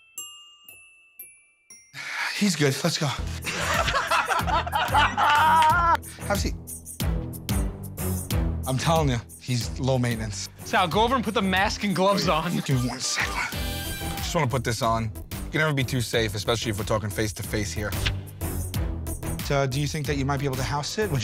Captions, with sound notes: He's good. Let's go. [ Laughter ] Have a seat. I'm telling you, he's low-maintenance. Sal, go over and put the mask and gloves on. Give me one second. Just want to put this on. You can never be too safe, especially if we're talking face to face here. So, do you think that you might be able to house-sit?